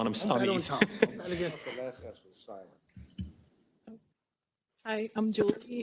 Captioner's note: councilman faintly speaking